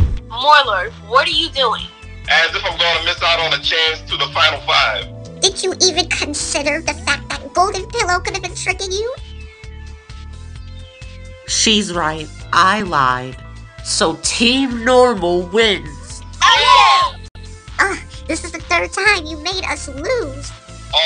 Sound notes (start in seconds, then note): 16.4 cheering